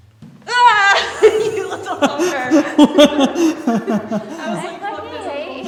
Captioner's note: both laughing